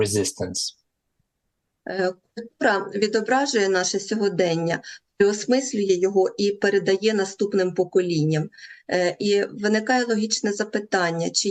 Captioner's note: foreign language